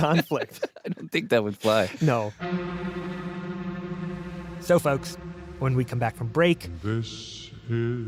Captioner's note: laughs